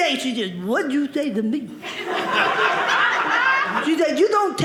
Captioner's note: audience laughing